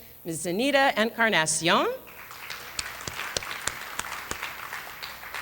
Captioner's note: applause